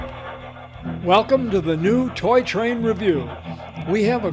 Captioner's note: voiceover